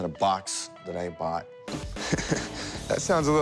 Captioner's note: chuckles